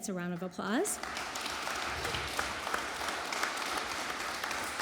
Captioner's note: audience applauding